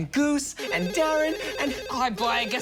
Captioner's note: phone rings